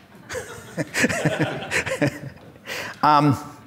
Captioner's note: laughs